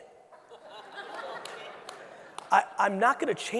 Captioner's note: audience laughing